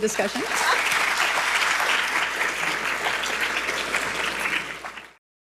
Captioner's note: audience applauding